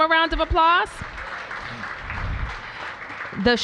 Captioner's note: applause